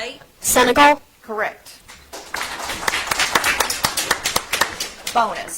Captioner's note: audience applauds